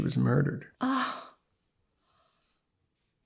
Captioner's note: lyssa gasps